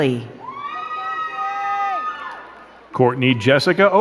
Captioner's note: crowd cheering and clapping